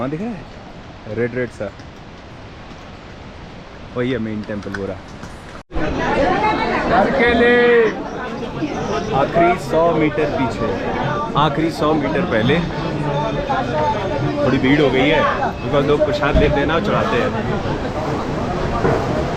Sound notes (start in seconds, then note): 5.7 vendors' voices; 18.3 crowd buzz